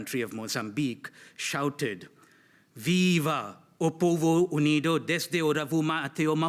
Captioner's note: speaks foreign language